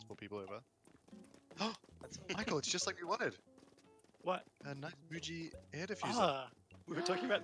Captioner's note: gasp